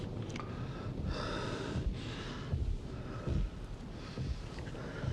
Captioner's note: steps thumping